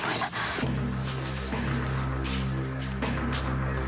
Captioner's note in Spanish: Susurra